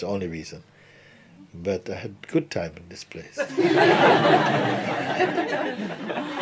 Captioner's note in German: Lachen